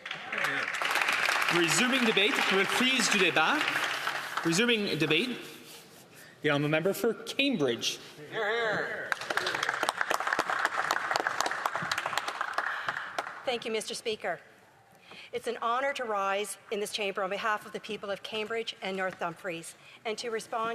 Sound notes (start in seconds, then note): 4.7 applause; 7.8 speaking French; 14.1 some Applause